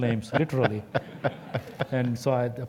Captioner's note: laugh